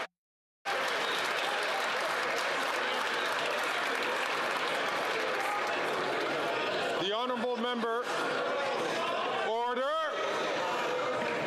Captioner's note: some Applause